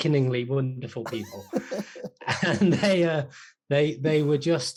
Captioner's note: laughing